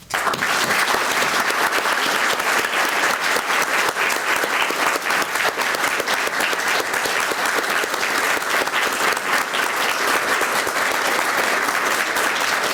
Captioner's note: applause